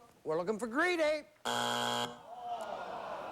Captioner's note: buzzer